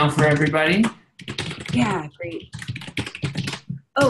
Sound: keyboard clacking

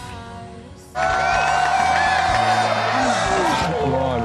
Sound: cheering

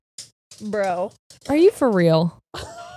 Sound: clattering noises

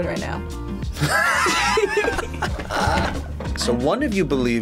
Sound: both laugh

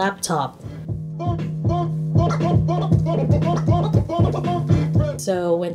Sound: record scratching

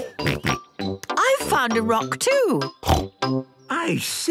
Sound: giggling and snorting; snorting

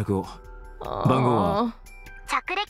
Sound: groans

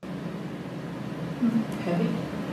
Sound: recording of women's' voices plays

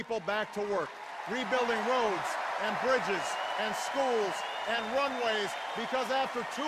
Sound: cheers and applause

